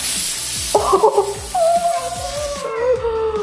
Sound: laughing

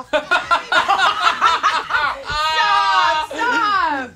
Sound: all laughing

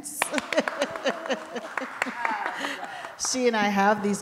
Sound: audience applauding

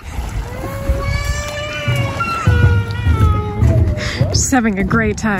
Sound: baby screaming

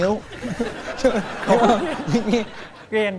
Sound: laughs

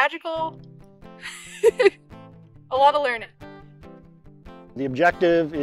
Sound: laughs

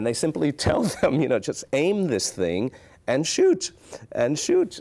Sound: chuckles

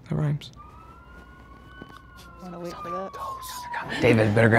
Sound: sirens yelling

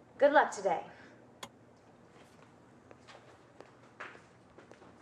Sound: light clicking

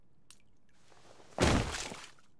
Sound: thud

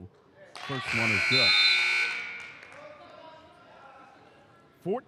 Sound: buzzer dings

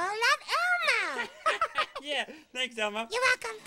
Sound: laughs loudly

